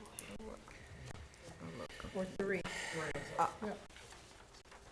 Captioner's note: board chatting quietly